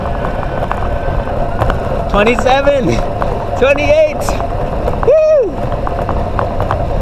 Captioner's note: motor noise